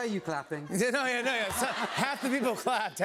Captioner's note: laughter